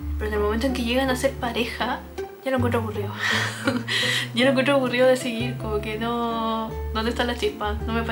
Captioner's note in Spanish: risas